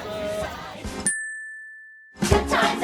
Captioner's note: ding!